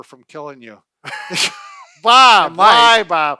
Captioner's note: laughing